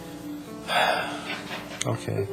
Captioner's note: sighs